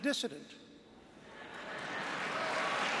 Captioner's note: applause